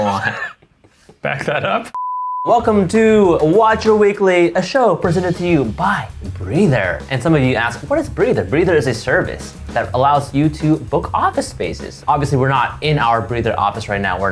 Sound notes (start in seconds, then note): 0.0 laughing; 1.9 beeping